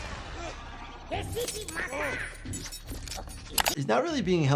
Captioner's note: robot continues angrily rambling